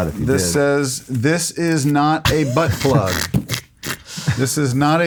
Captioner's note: laughs